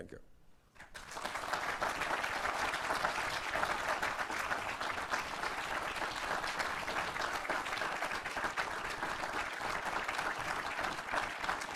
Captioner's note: applause